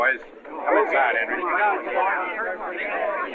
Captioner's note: chatter